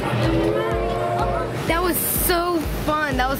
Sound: train whistle

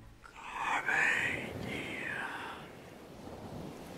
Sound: whisper

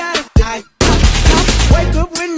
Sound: gunshots while Jim plays the drums

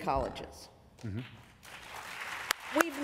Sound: applause

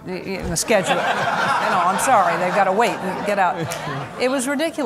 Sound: laughter

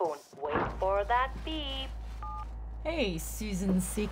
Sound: beep

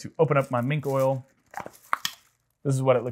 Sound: canister popping

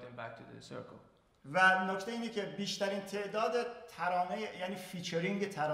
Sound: speaking in farsi

